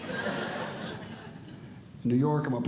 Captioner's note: audience Laughing